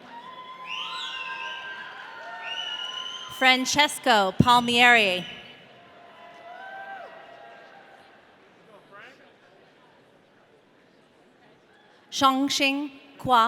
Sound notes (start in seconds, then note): 0.0 audience cheering; 6.4 audience cheering